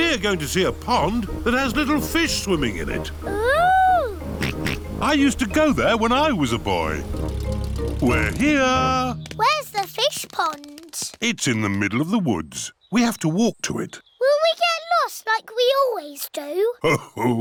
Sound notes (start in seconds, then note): 4.4 snorts